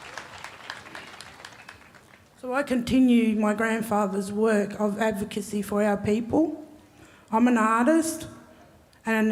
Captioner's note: applause